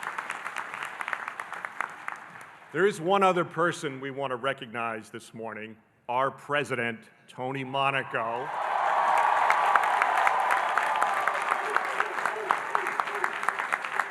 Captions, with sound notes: There is one other person we want to recognize this morning, our president, Tony Monaco. (audience cheering and applauding)